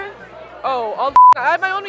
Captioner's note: beep